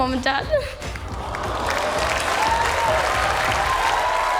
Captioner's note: cheering and applause